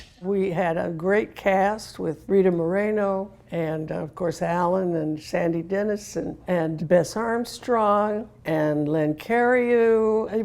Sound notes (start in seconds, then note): none